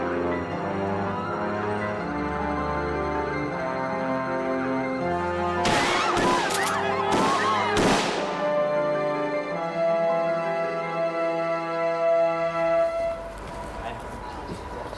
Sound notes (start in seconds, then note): 5.6 gun firing; 5.8 people yelling